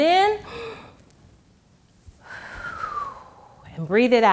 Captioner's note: gasps